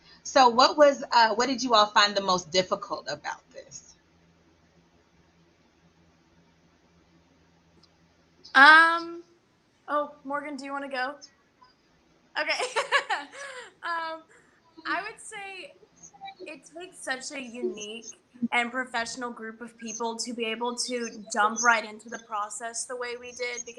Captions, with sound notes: - So, what did you all find the most difficult about this? - Um, oh, Morgan, do you wanna go? Okay. (laughs) I would say it takes such a unique and professional group of people, to be able to jump right into the process the way we did.